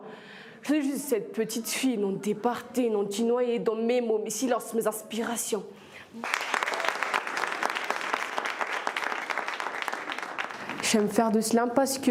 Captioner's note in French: applaudissements